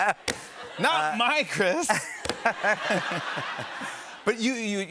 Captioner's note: laughter